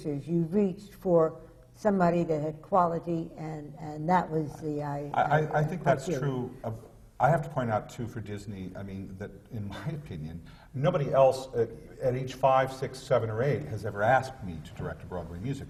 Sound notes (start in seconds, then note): 9.7 laughs